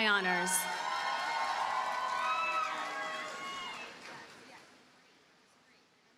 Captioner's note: audience cheers and applauds